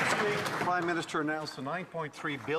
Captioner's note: some Applause